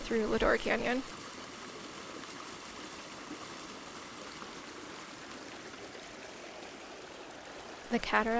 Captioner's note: Ely Creek sounds